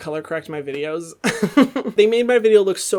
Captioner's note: laughing